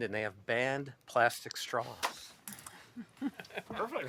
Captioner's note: laughter